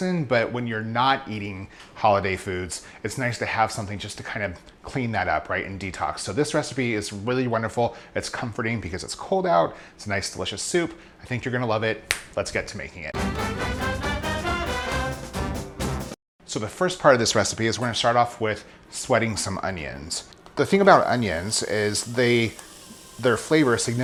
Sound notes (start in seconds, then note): 12.1 snaps fingers; 13.1 upbeat music